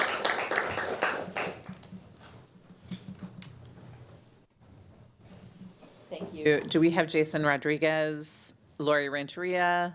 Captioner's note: applause